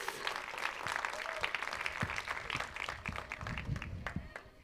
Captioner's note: applause